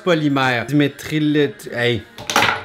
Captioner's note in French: fracas